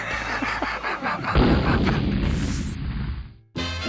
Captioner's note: laughs; explosion